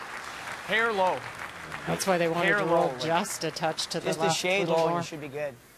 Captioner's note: applause